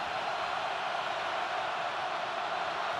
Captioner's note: crowd cheering